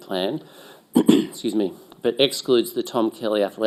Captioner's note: clears throat